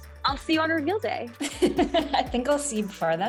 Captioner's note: laughing